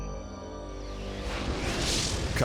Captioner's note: graphics whooshing